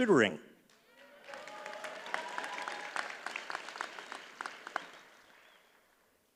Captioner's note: audience cheers and applauds